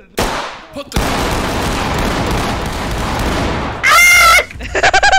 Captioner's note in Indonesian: baku tembak tak terkendali; cekikikan